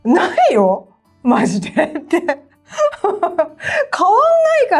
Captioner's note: laughs